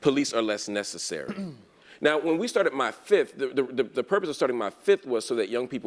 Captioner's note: cough